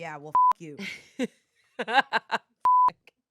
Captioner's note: beep; laughs; beep